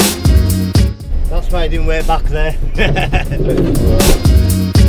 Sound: laughs

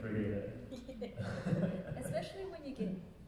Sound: laughing

